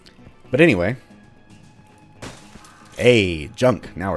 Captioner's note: smash